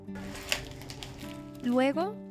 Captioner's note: Sonido de paquete de suero al abrirse